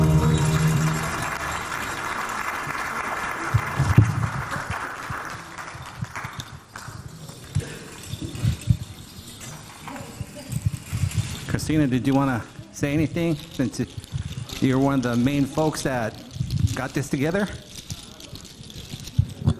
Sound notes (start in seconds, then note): 0.0 audience clapping; 7.4 beads clinking